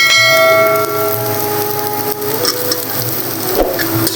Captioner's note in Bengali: ঘণ্টা